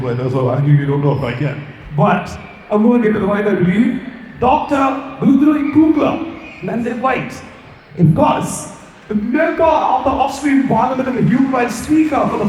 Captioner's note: speaking foreign language